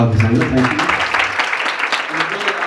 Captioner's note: audience applauds